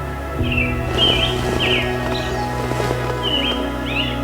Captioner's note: sound of rustling in the tent